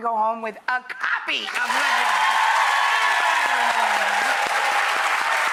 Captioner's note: audience applause